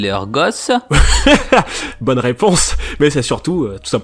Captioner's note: laughs